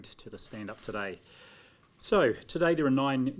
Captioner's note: speaks te reo maori